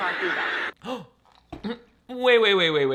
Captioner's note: gasp